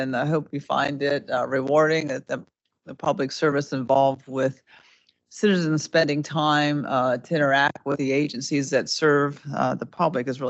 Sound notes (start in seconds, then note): none